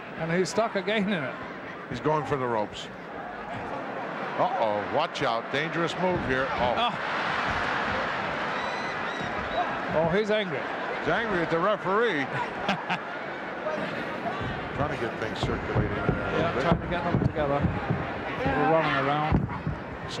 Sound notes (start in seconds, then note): 12.2 laughing